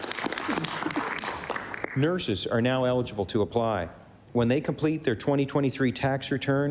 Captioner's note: applause